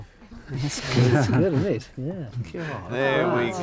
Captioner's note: group chuckles